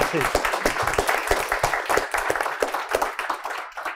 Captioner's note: audience applauds